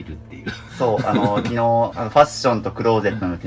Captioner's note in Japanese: 笑い